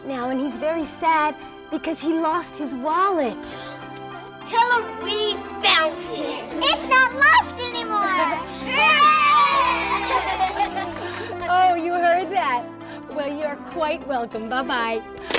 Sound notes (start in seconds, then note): 8.6 cheering